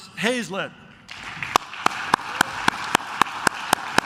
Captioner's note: claps